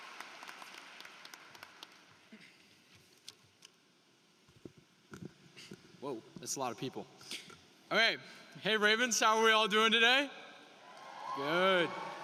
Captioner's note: cheering and applause